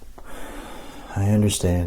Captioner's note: inhales